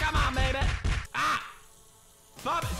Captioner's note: pounding